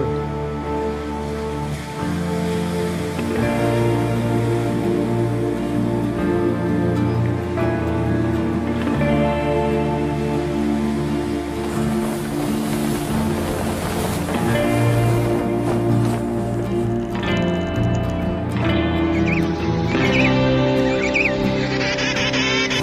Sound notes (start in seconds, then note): 0.2 somber music; 11.1 whooshing; 18.9 birds chirping